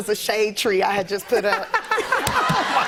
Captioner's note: laughter